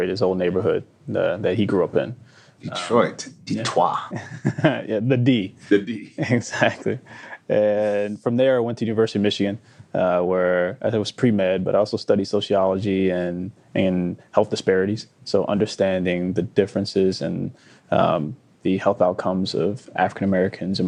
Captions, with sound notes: his old neighborhood that he grew up in. - Detroit, the Detoi. - (laughs) Yeah, the D. - The D. (chuckling) - Exactly. And from there, I went to University of Michigan where I thought it was pre-med, but I also studied sociology and health disparities. So understanding the differences and the health outcomes of African-Americans